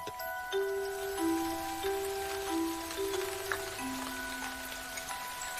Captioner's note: mystical music; rain pattering